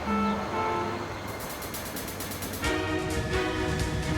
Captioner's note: bell; gunshot